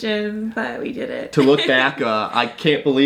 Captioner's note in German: lacht